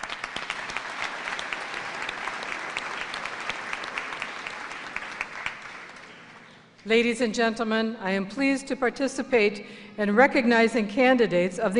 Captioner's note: applause